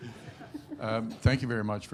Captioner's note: audience laughing